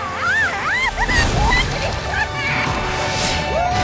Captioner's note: screaming